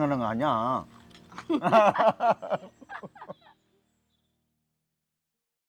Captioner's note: both laughing